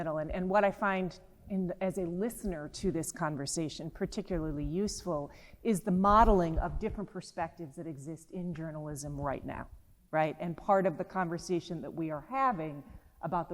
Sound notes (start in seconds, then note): none